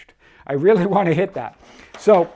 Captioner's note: chuckling